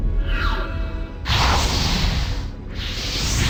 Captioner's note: sounds of firebending betrayal